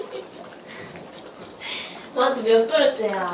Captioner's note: laughs